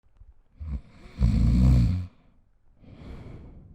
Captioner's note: snoring sound